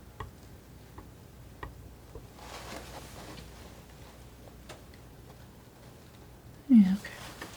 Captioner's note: tapping